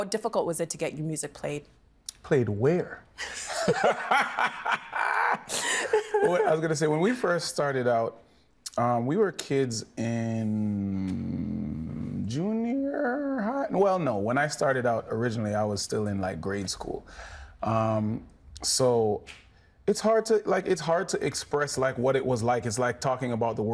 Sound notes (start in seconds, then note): 5.5 everyone laughing